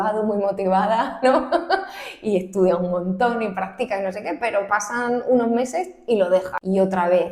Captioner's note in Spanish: risas